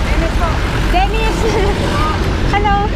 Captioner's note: laughs